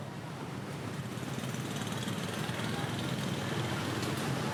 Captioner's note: traffic humming